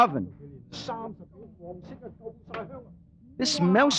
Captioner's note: chatter